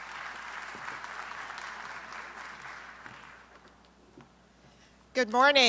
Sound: applause

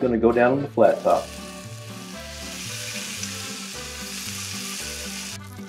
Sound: meat sizzling

